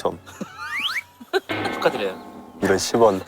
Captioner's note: Scratch